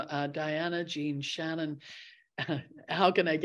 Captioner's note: chuckles